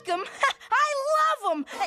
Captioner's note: laughs